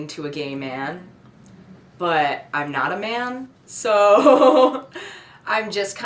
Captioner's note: laughs